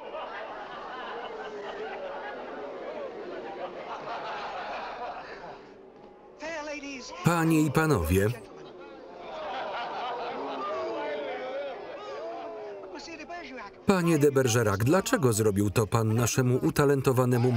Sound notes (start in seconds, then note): 0.0 laughter; 9.1 laughter